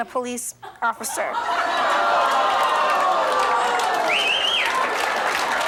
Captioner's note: audience laughs